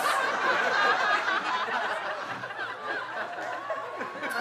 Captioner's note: audience laughing